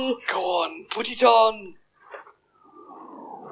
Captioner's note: gasps